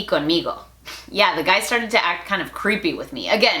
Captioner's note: Spanglish